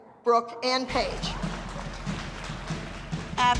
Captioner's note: applause